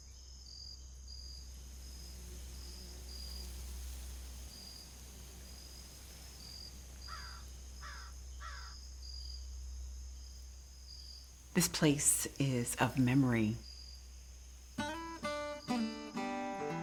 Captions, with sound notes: (bird cawing) (insects chirping) - This place is of memory. (gentle music)